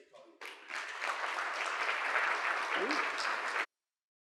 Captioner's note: audience clapping